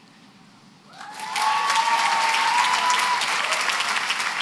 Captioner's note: cheering and applause